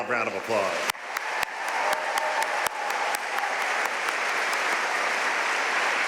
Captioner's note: audience cheering and applauding